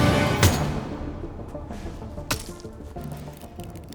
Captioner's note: hammer thunks